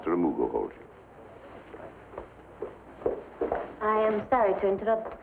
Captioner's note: footsteps approach